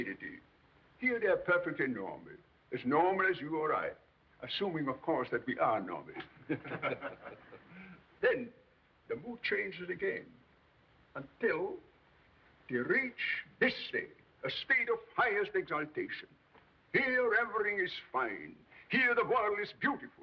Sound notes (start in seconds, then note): 6.2 all laughing